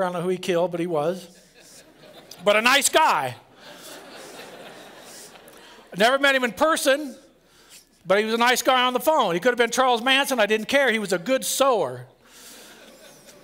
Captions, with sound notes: I don't know who he killed, but he was, but a nice guy. [LAUGHTER] I never met him in person. But he was a nice guy on the phone. He could have been Charles Manson. I didn't care. He was a good sewer.